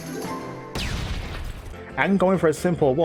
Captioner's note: boom!